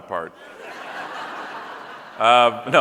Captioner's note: audience laughing